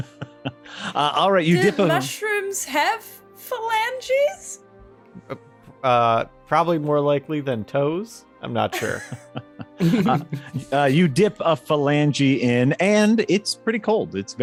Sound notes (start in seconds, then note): 1.5 laughing; 8.7 laughing